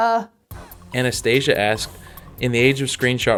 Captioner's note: voiceover